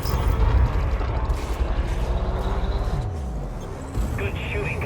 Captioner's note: quieting humming of the engine